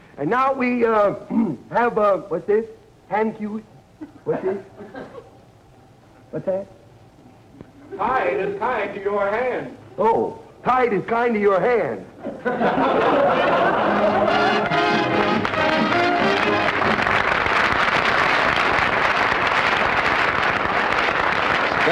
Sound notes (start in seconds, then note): 12.2 audience laughter; 17.1 applause